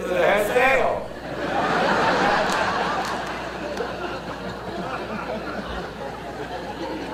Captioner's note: audience laughter